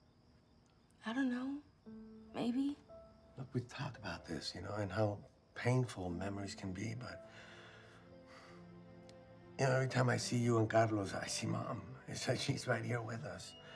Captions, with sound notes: I don't know. Maybe. Look, we talked about this, you know? And how painful memories can be, but... [inhales deeply, exhales] You know, every time I see you and Carlos, I see Mom. It's like she's right here with us.